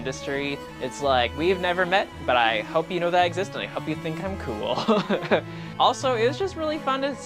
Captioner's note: laughs